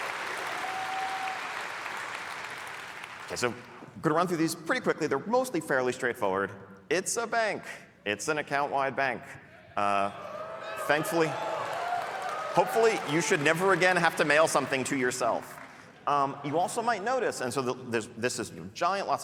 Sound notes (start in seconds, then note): 5.3 applause; 15.0 cheering